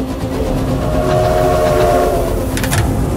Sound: train honking

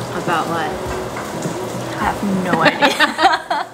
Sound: laughs

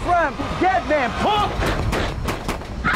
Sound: gunshots; screams

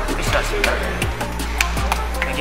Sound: clap, clap, clap

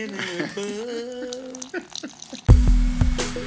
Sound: urinating; relaxed music

